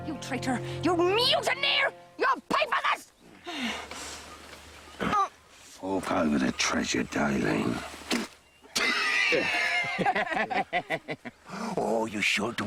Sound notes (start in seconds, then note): 6.8 laughing